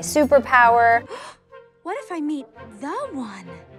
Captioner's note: gasps